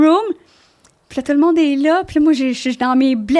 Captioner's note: in french